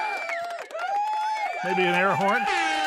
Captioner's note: audience cheering